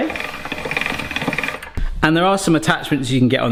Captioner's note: pasta machine cranking